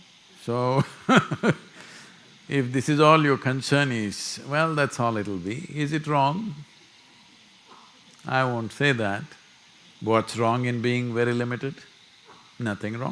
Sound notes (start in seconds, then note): 1.0 laughs